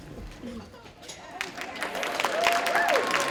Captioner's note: claps